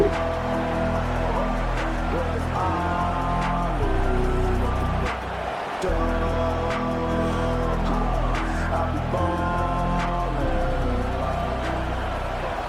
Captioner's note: crowd Noises